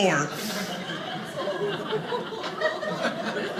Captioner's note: audience laughing